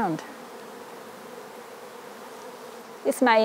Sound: bees buzz

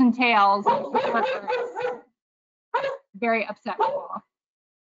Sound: dog barking

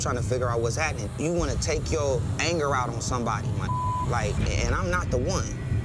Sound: beep

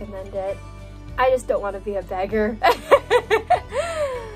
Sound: fake laughs chaotically

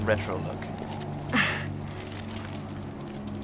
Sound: Ebony laughing; ominous music

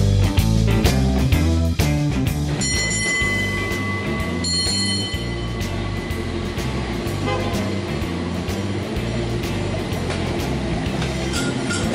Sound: bell ringing rhythmically and clattering of wheels on tracks

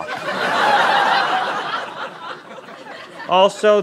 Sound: laughter

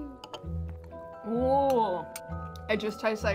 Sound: spoons clicking

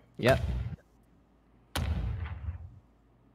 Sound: booming sounds continue

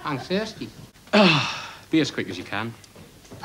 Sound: sigh

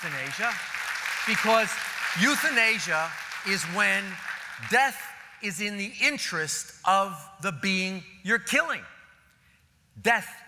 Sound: applause

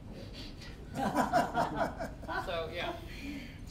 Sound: all laughing

